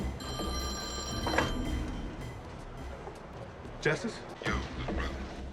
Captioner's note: telephone ringing